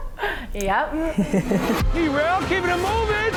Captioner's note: laughing